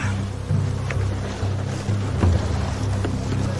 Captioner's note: men struggling